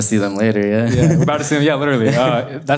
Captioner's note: laughs